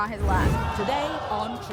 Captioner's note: audience groans